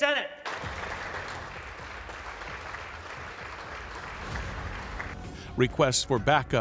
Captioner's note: applause